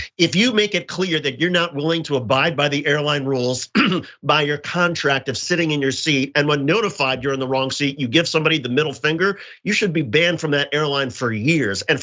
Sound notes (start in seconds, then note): 3.7 cough